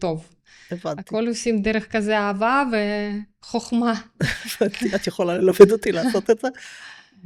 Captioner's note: laughter